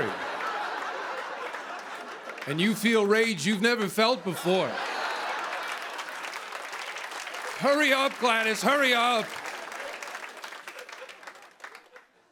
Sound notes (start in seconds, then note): 0.0 laughter; 4.8 laughter and applause; 9.4 applause continues